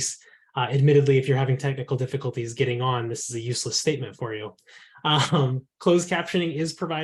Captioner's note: laughter